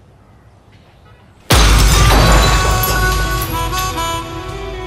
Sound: glass breaking

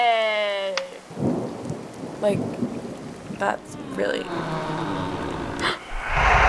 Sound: door creaking; gasps; ominous whoosh

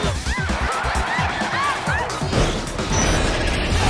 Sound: crowd cheers

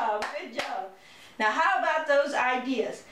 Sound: clapping

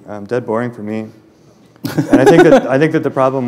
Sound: laughter

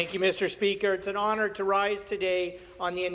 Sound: some Applause

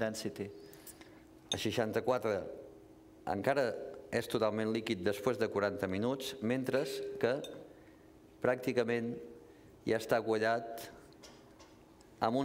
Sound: speaking catalan

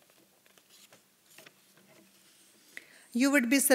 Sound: papers shuffling

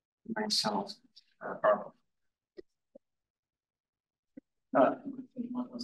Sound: audio distorting

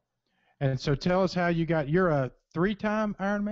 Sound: voiceover

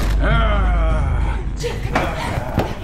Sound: ominous music; growling

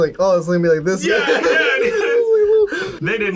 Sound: laughs

